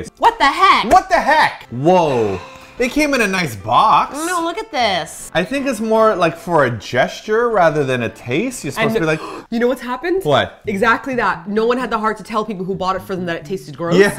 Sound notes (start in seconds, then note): 8.8 gasps